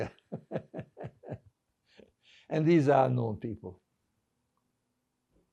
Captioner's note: laughing